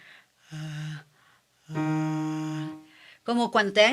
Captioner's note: yawns